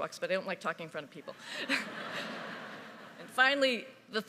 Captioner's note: audience laughing